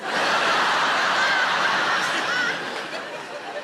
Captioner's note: audience laughing